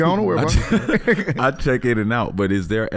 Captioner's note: everyone laughing